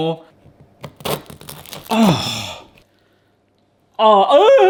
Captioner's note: pizza crunching